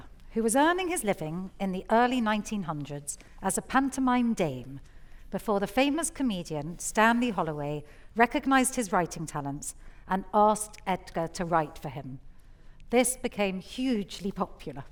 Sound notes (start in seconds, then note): none